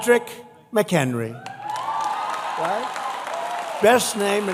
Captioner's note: applause